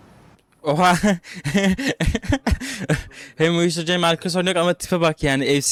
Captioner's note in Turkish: kahkaha